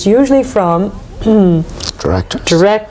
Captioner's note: clearing throat